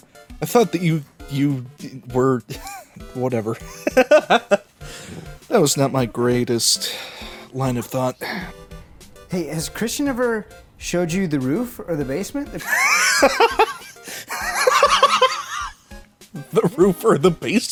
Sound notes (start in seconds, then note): 2.6 wheeze; 3.6 laughter; 12.6 wheezing laughter